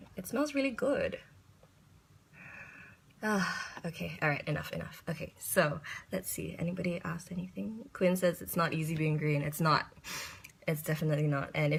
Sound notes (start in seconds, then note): 2.3 inhales, sighs